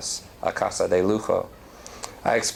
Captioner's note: non-english